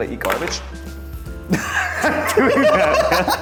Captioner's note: laughing